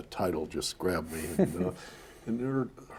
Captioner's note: chuckles